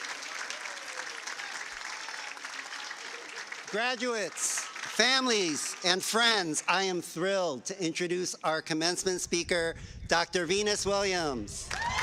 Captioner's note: cheers and applause